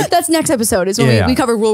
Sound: laughs

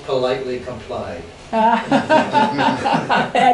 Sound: laughs

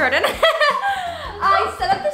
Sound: laughing

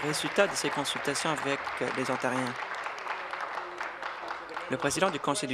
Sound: applause

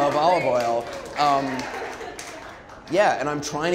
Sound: audience applauding

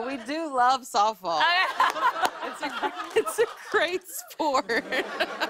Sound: laughs

